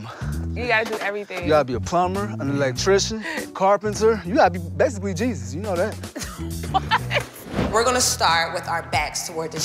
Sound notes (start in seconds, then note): 6.1 laughter